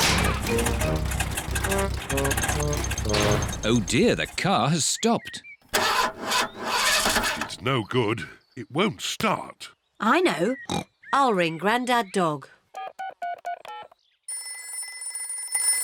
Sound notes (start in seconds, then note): 0.0 engine sputters; 5.7 engine sputters; 10.5 snorts; 12.7 buttons beeping; 12.7 phone rings